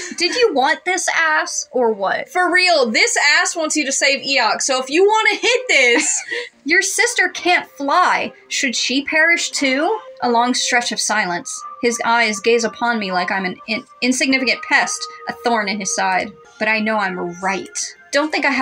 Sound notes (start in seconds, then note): 5.8 chuckle